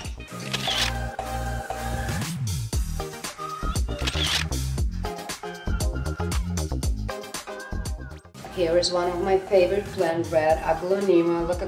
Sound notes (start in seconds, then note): 0.4 camera Shutter Clicks; 3.8 camera Shutter Clicks